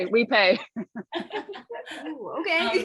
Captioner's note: laughter